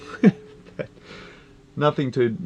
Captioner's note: he laughs